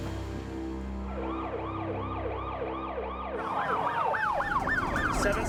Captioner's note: tense music; sirens blaring